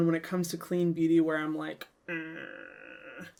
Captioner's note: groans